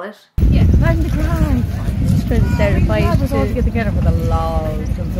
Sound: chatting on phone

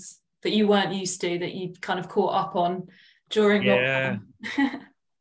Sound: chuckles

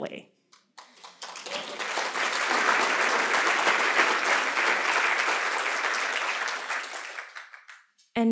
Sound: applause

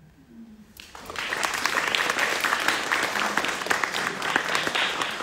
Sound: audience clapping

